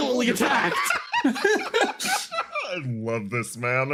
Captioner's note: laughs